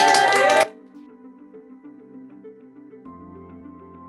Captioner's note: cheering